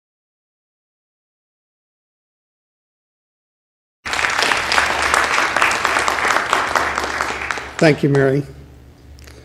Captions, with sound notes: (applause) - Thank you Mary.